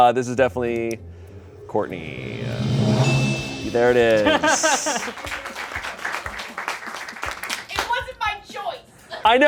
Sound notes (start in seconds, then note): 2.2 bell chimes; 5.0 crew applauds